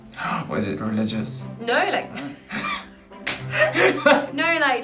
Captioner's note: laughter